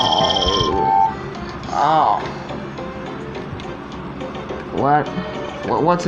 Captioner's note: moaning And Groaning